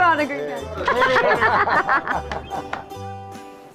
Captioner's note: all laughing